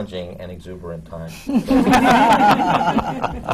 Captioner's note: laughter